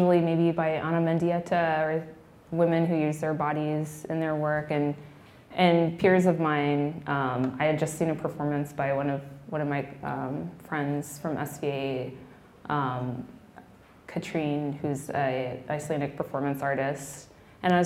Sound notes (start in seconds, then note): none